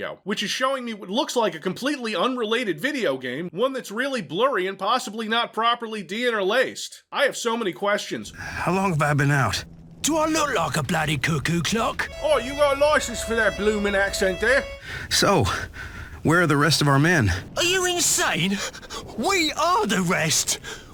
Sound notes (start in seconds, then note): 12.1 awful British accent